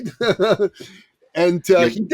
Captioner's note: laughs